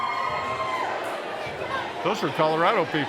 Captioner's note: crowd cheering